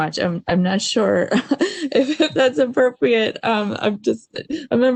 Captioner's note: laughter